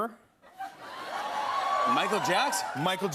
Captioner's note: cheers and applause